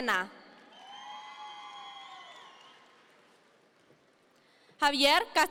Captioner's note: audience members cheer